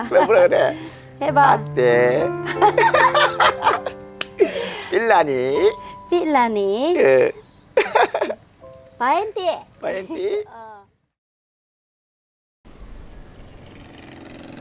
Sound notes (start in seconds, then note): 1.5 bisaya slowly speaking; 1.9 both laughing